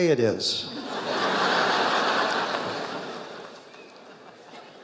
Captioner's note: audience laughing